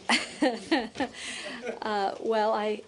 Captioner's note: laughter